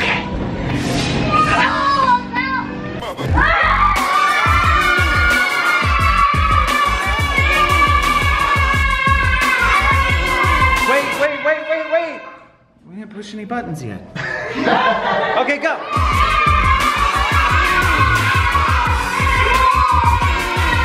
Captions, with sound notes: (upbeat music) (cheering) Wait, wait, wait, wait, wait! We didn't push any buttons yet. (laughter) Okay, go! (upbeat music) (cheering)